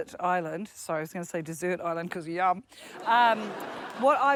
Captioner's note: laughter